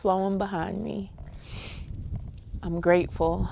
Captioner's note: sniffling